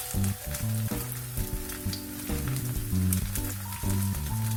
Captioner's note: sound like rain - ♥